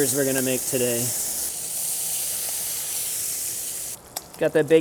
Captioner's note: bacon sizzles